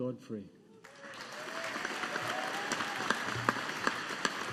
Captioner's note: audience applauding